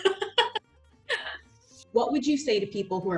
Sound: laughter

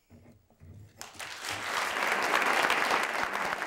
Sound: applause

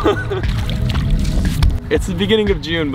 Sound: laughs; water trickling

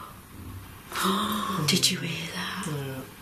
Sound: gentle thud

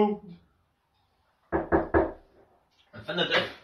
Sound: knocking

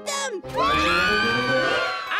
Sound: screaming

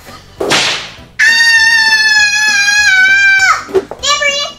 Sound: whip lashes; shrieking

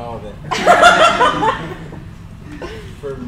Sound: crowd laughs

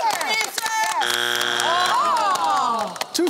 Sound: groaning

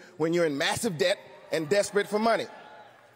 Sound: cheering

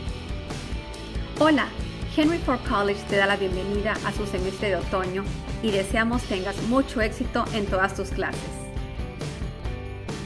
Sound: Spanish

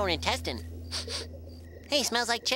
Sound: sniffing

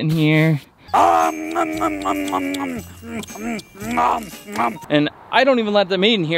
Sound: Cookie Monster munching

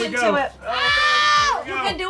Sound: shouts

